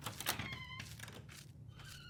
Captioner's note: door creaks